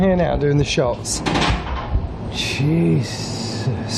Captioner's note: loud banging